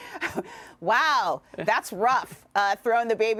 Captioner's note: laughter